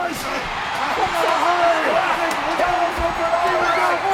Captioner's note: crowd cheering